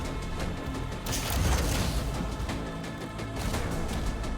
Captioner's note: metal clatters